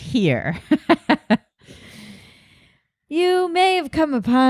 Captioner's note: laughing